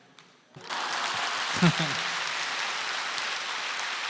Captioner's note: audience applause